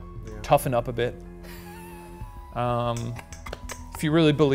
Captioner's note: laughing